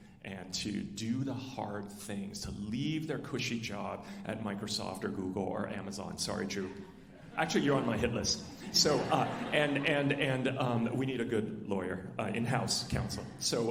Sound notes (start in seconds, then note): 8.7 alumni laughing